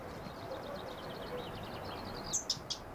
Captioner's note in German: Vogelzwitschern